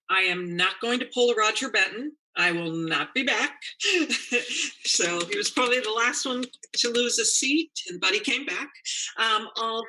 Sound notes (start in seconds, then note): 4.0 laughs